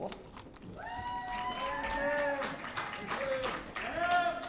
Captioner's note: audience cheering